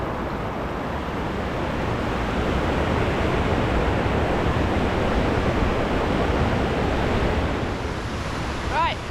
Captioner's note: water rushing